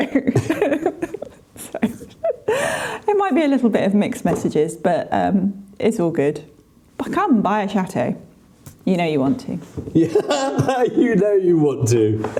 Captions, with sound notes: (laughing) Sorry. There might be a little bit of mixed messages, but it's all good. But come, buy a chateau. You know you want to. Yeah, you know you want to.